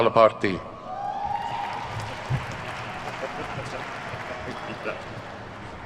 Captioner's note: attendees cheer and clap